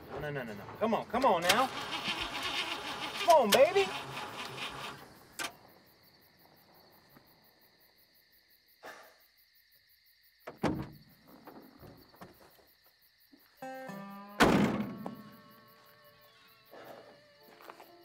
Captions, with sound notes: (engine dies) No, no, no, come on, now! Come on, baby! (engine sputters and clicks)